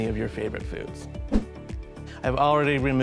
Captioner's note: air whooshes